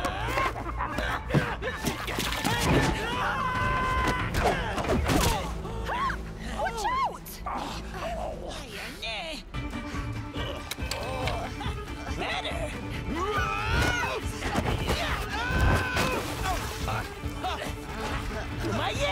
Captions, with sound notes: (screams) Hup! Watch out! (grunts and scuffles)